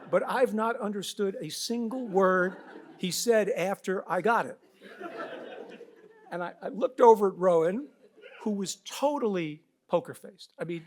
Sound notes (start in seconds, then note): 4.8 audience laughs